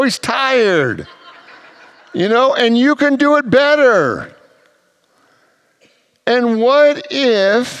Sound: congregants laugh

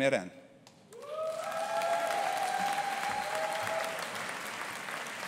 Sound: audience cheering

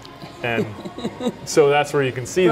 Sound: laughing

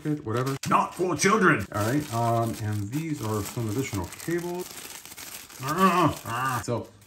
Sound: struggling noises

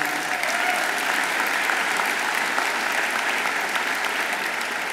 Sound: audience applauds

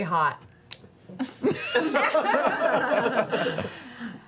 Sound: laughter

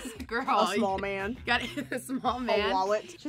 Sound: laughs

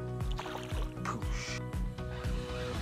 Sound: fish splashes off

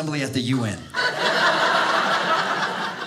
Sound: audience laughing

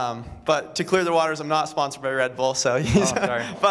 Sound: laughter

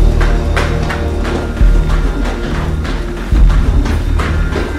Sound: footsteps thudding

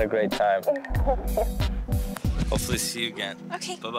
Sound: laughs

